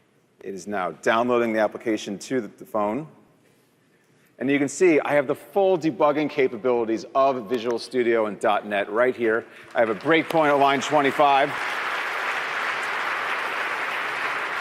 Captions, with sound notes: It is now downloading the application to the phone. And you can see I have the full debugging capabilities of Visual Studio and .NET right here. >> [APPLAUSE] >> I have a great point on line 25. >> [APPLAUSE] >> So,